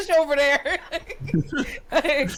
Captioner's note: laughing